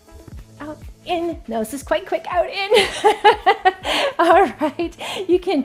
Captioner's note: laughs